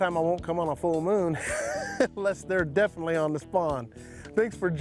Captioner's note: laughs